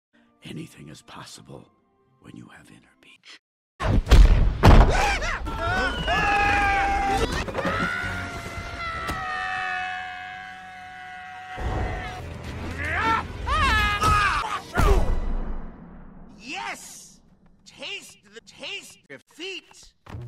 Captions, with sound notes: Anything is possible... when you have inner peach. - (screaming) (collective screaming) - RRRRARRGH! - (screaming) YES! Taste the taste of feet!